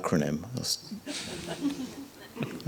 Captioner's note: audience laughs